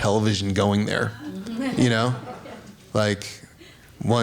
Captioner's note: laughter